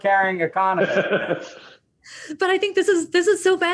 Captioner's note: laughs